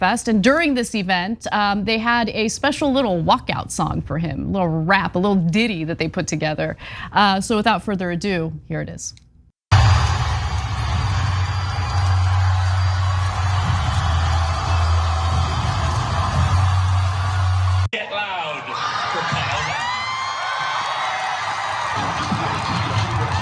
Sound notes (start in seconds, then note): 19.4 applause